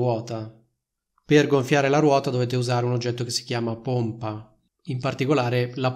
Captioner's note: in Italian